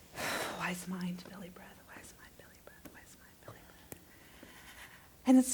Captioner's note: deep breaths